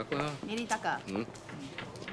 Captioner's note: speaking foreign language